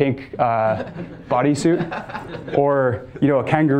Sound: students laughing

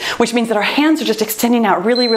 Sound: timer beeps

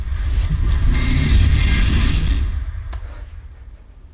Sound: eerie distorted noise

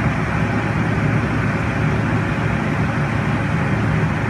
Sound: sound plane

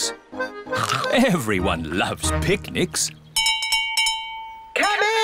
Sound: all chomping; bell rings

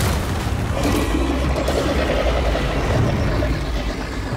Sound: creature growls

